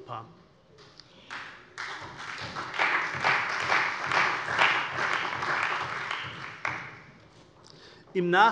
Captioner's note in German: Beifall bei der CDU und dem BÜNDNIS 90/DIE GRÜNEN